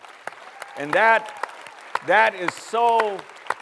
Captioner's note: applause